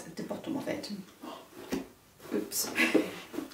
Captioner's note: laughs